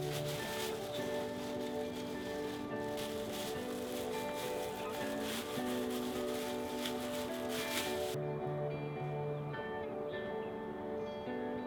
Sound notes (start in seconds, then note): 2.3 paper bag rustling; 5.2 soft music